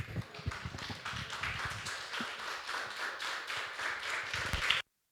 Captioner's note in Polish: Aplauz